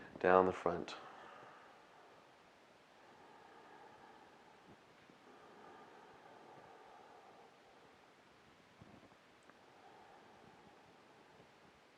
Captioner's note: breathing